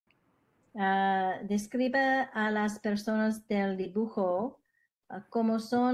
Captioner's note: student 1, Spanish